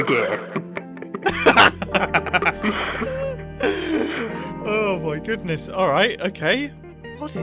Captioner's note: laughs